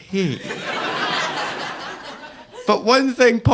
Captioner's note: audience laughing